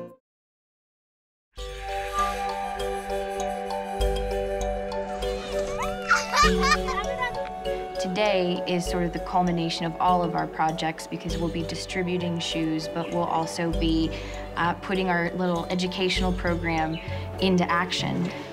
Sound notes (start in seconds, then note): 5.8 laughter